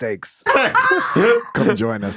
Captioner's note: everyone laughing